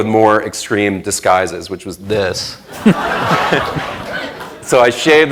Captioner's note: laughter